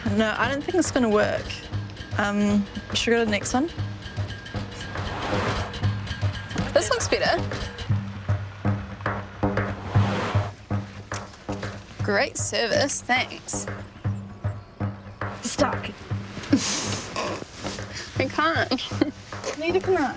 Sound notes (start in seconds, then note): 5.7 car whooshing